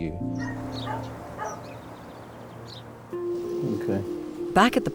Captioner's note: birds chirping; dog barking